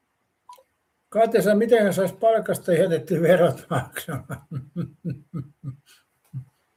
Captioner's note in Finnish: naurua